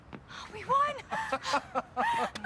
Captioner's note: will laughing